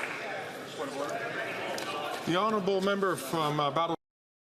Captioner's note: some Applause